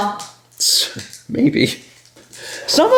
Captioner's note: chuckling